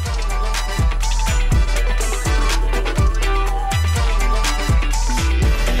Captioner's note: clap